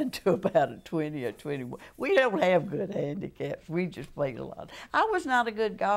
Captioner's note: laughter